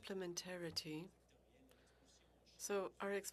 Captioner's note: speaking French